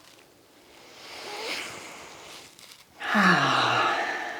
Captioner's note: breathing heavily